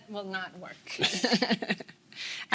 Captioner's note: laughing